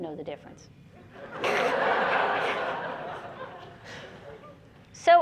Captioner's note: laughter